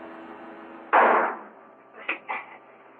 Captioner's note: gunshot